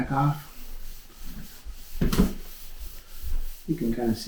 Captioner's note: cloth rustling